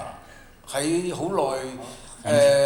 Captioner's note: Mandarin; Cantonese